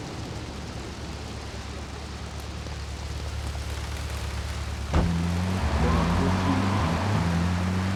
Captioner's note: sirens wailing